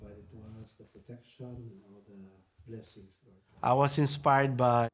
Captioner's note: faintly speaking